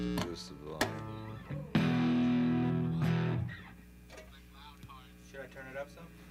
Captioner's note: instruments tuning; indistinct chatter